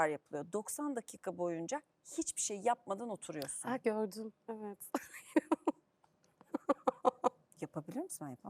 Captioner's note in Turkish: kahkaha